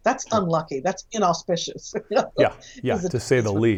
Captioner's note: laughs